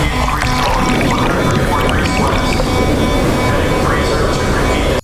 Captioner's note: emergency beeping sounds